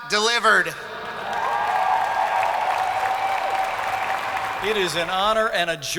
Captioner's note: audience clapping